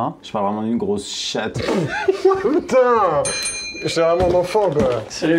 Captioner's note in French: rire